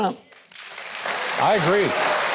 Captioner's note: congregation applauding